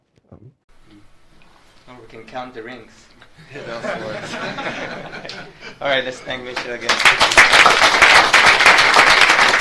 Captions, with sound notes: - We can count the rings. (audience laughs) All right, let's thank Mitch again. (audience claps)